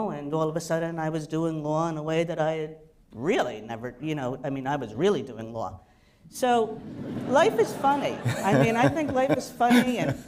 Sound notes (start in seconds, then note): 6.8 laughter